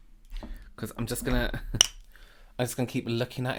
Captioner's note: chuckling